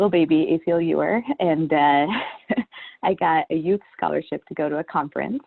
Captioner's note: chuckles